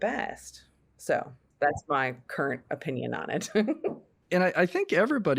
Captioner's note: laughs